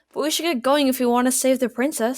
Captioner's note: none